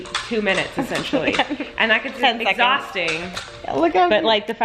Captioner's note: laughing